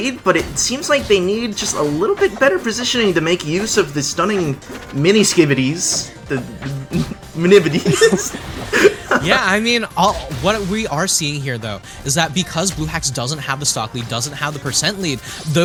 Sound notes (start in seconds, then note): 6.2 chuckles; 8.5 laughs